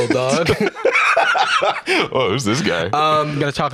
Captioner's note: laughs